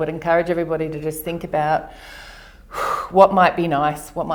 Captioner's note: breathes out